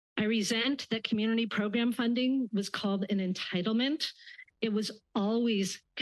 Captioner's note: none